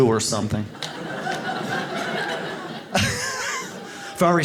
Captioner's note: audience laughs